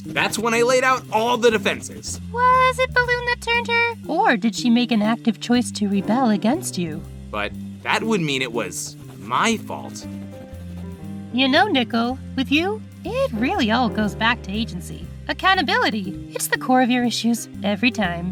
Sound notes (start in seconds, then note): none